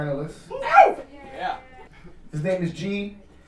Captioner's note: audience cheer